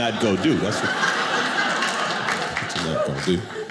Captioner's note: audience laughing